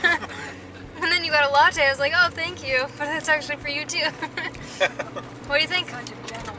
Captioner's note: laughter